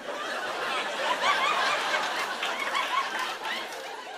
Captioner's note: laughter